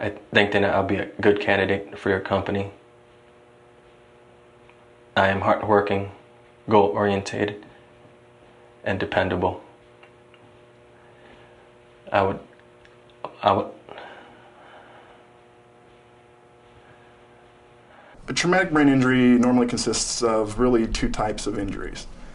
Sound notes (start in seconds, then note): 12.1 stuttering; 13.8 exhales